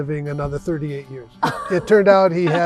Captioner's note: laughs